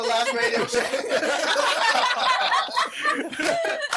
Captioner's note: laughing